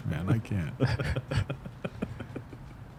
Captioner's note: laughter